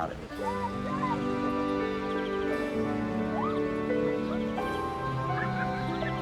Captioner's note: gentle music; children chattering